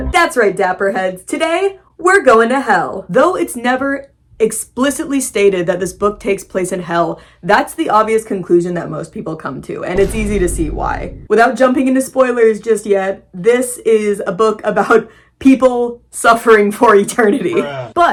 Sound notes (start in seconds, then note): 9.9 boom; 15.0 laughing